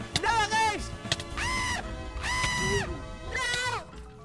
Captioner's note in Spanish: grita